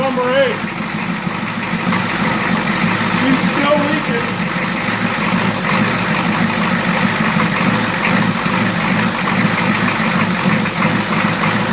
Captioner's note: engine idling erratically; engine idling erratically